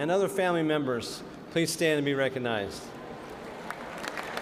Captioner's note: cheers and applause